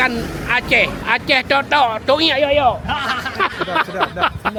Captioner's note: laugh